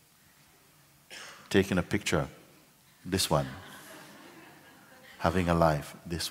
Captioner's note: laughter